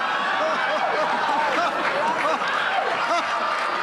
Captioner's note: laughter